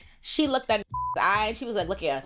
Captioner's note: beep